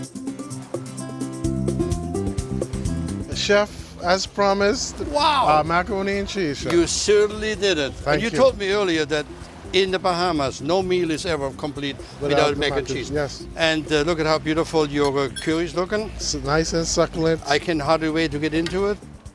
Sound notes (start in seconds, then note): 6.6 hands clap